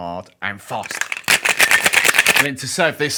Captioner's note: cocktail shaker rattles